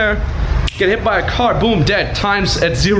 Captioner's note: fingers snap